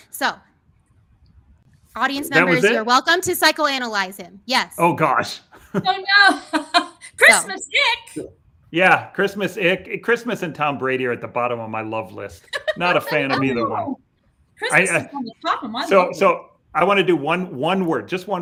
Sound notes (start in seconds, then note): 5.7 laughs; 12.4 laughs